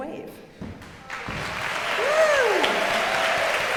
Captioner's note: audience cheering and applauding